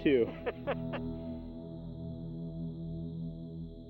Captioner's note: laughing